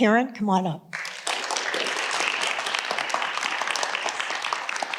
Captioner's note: audience applauding